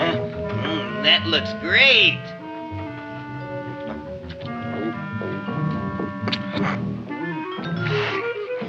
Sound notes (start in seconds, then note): 3.4 eating sounds